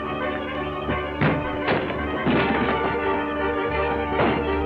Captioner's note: door slams; body flops